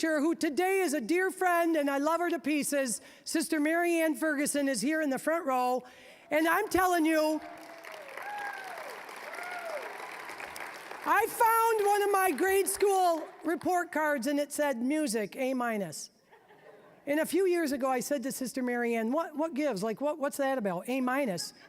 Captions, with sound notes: who today is a dear friend and I love her to pieces, Sister Mary Ann Ferguson is here in the front row. And I'm telling you-- (applause) (applause, cheering) I found one of my grade school report cards and it said, "Music, A-minus." And a few years ago, I said to Sister Mary Ann, "What gives? "What's that about? A-minus?""